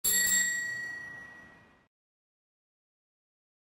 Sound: bell chimes

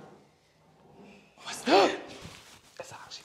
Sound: whispery Voice

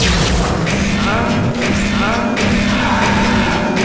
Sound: ethereal speech

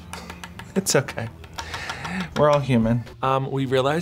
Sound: laughs

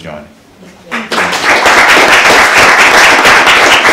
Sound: applause

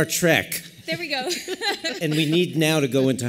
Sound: laughter

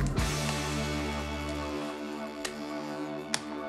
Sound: hands slapping

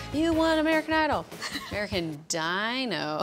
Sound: laughs

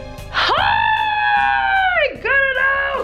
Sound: screams

